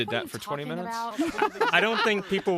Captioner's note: laughter